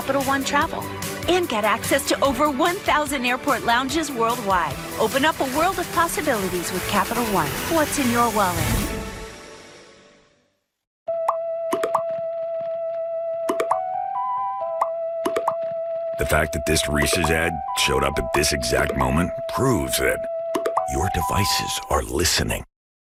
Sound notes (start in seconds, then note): 10.4 fades to silence